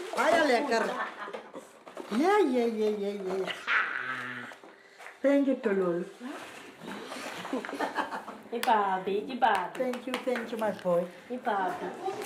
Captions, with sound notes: Very nice! Thank you Tololi. [LAUGHS] [SPEAKING XHOSA] Thank you my boy.